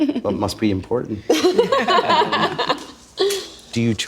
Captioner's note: laughing